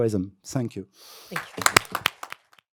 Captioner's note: applause